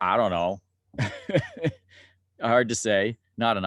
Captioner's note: laughs